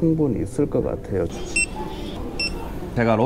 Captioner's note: beep beep